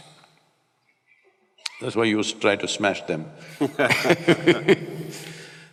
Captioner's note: both Laughs